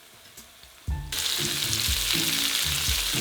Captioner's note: sizzling